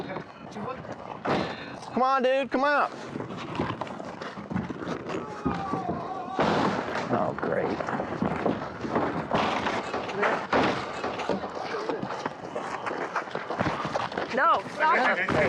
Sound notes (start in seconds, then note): 5.1 screams